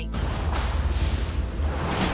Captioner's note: door rattling